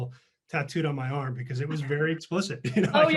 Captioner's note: laughs